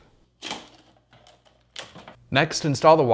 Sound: tape creaking

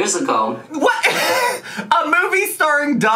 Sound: laughs

